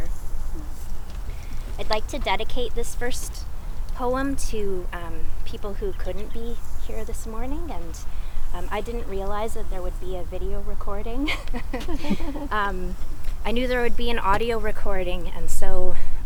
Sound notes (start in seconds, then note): 6.0 laughing